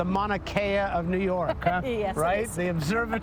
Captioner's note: laughs